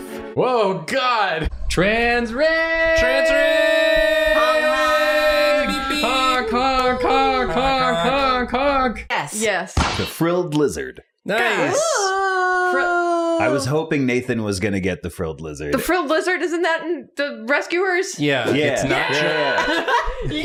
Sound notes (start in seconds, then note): 1.8 yelling; 9.7 thud; 18.8 cheering